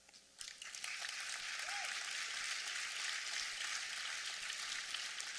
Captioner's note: applause